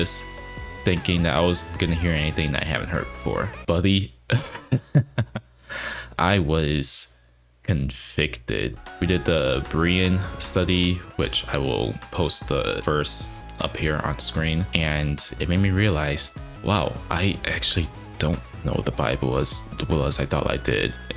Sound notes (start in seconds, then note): 4.3 chuckles